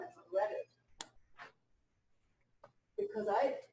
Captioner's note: pause